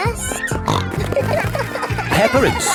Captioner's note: snorting